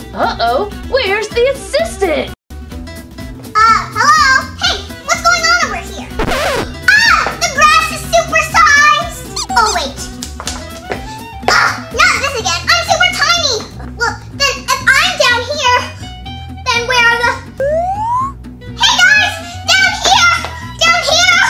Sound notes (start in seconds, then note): 6.2 noise signal; 9.3 toy squeaking; 10.2 footsteps pattering; 17.6 swing flute; 21.3 footsteps pattering